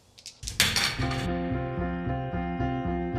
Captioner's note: dice rattle; dice clanging on metal